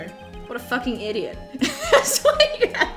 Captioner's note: laughs